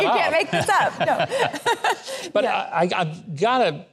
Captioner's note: laughs